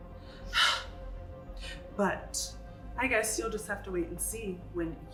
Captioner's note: gasps